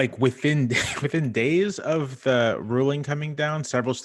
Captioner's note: laughter